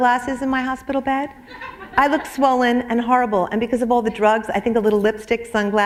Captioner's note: laughter